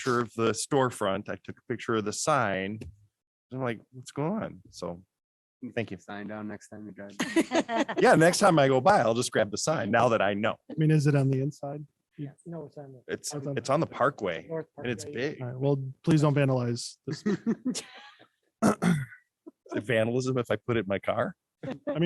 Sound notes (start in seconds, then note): 7.2 laughter; 17.0 laughter